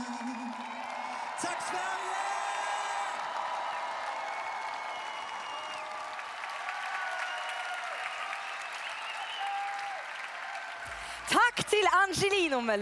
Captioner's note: Applåder